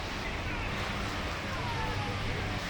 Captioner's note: water rushing